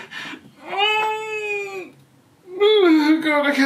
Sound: crying

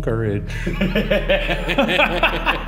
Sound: laughing; laughs

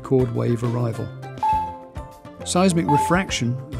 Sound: ping sound effect

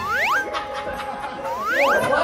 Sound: sound effect:hop

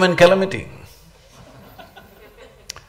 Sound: laughter

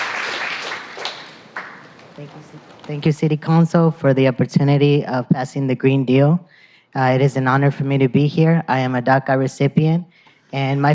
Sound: applause

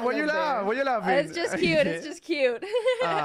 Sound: in English; laughs

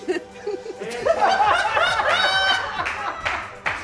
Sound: laughing

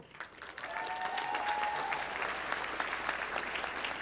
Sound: applause

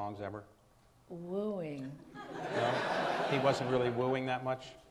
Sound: audience laughs

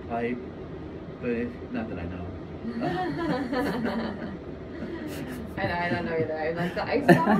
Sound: laughter

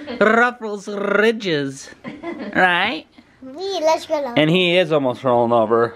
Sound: rolling Rs

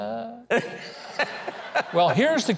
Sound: laughs

